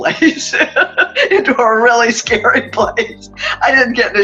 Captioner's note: laughing